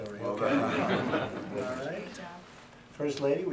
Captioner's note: laughter